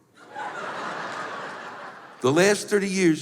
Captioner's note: laughter